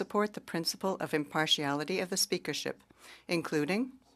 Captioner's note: speaking French